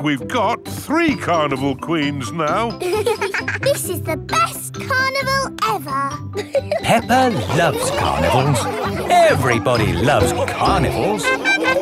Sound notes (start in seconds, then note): 2.8 both giggling